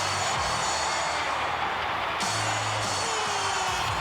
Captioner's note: crowd cheering